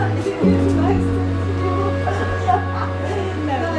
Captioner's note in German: Fröhliches Lachen